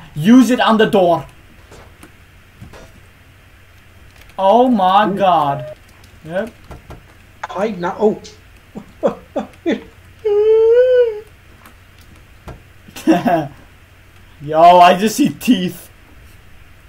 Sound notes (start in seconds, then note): 6.6 door unlocks and opens; 12.4 door closes; 12.9 laughs